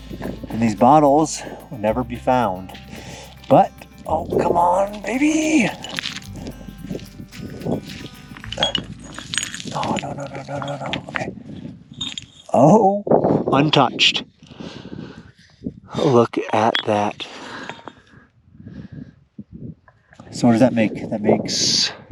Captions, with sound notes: and these bottles will never be found, but oh, come on baby! (bottles clinking) Oh, no, no, no, no, no! Okay. Oh! Untouched. Oh, look at that. So does that make, that makes